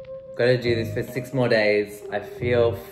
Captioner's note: voiceover